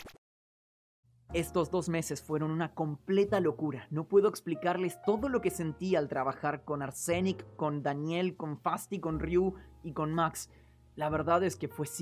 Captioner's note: very emotional speech in Spanish